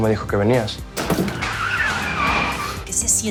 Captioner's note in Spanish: Chirrido de llantas